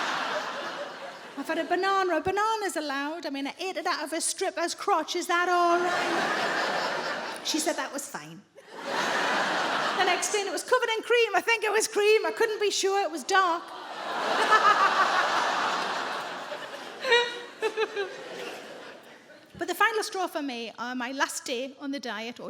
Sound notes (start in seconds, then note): 14.1 audience groans; 14.1 sarah laughs